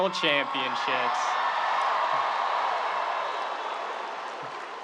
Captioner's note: audience cheering